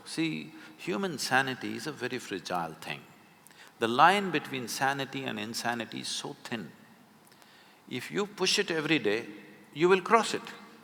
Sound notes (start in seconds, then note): none